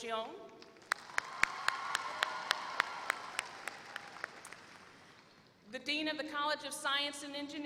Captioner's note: applause